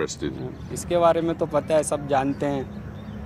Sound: speaking hindi

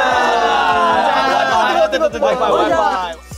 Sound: cheers above the campfire

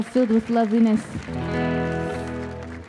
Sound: audience applauding; light guitar music

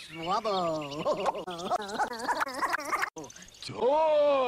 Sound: laughing while aggressively jacking off

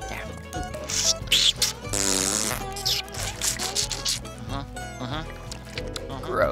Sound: slurping

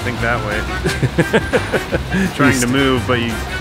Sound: laughter

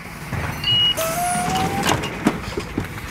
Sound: loud banging; beep

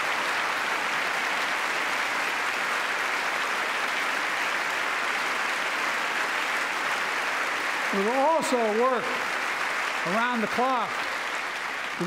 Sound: applause

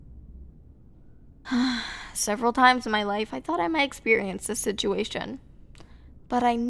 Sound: sigh

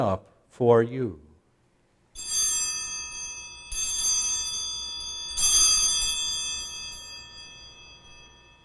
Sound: bells ringing

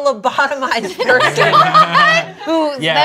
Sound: laughs

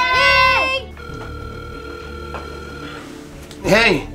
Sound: phone dialing

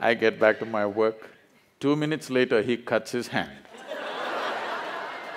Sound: laughter

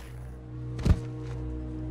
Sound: snake thuds

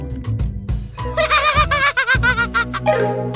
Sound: laughing

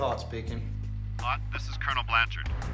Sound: on phone

